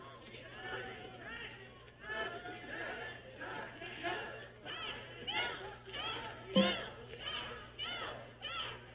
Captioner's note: people Talking